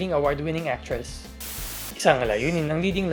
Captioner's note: static sound